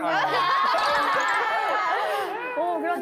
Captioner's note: laughing